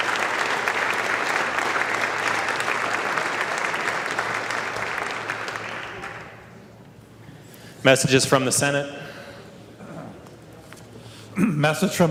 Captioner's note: applause